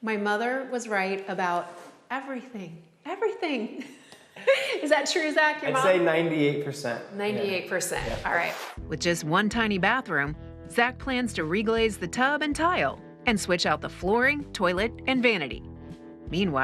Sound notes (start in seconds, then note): 4.4 laughs